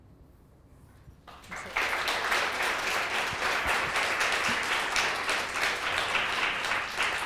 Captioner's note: applause